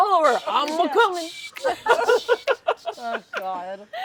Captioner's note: rhythmic beatboxing